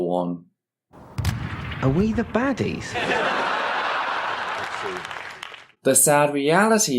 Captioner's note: audience laughter